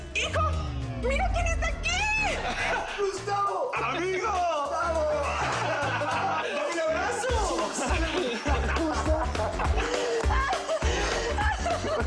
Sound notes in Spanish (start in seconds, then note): 6.3 Risas; 8.5 Risas